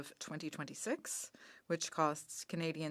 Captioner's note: speaking French